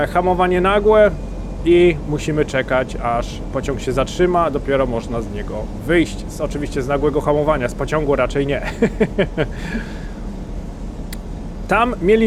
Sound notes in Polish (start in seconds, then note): 8.6 śmiech